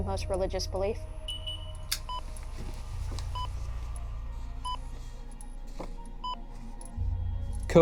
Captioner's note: machine beeps